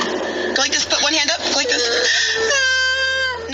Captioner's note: feigns sobbing; child sobbing